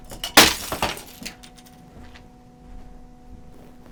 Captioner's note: can clatters